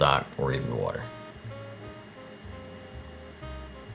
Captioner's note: burner humming